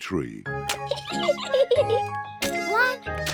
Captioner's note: giggles